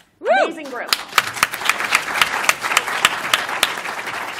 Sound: applause

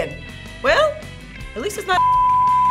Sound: beep

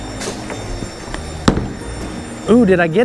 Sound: bowling ball thuds

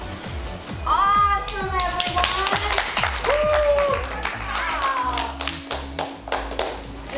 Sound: clapping

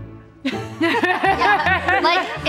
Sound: laughing

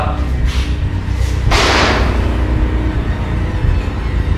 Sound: door slams shut

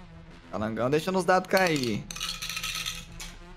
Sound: dice sounds

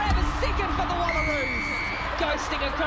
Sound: whistle blowing

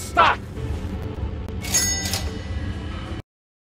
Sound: cha-ching!

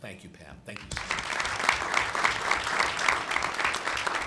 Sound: clapping

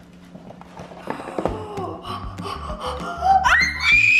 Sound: gasping

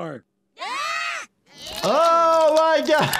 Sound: screaming

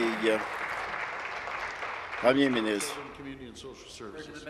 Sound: applause

